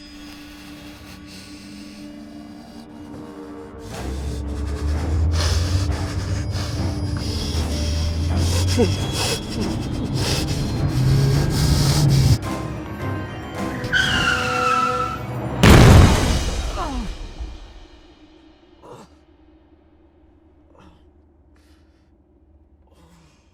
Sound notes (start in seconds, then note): 0.2 Mark breathing heavily; 4.0 dramatic tense music; 4.8 Mark panting; 8.9 Mark whimpering; 13.6 tires screeching; 16.8 Mark grunting